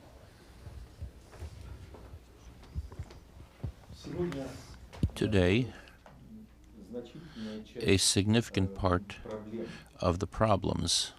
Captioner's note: through translator